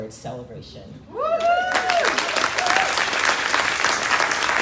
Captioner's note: crowd cheering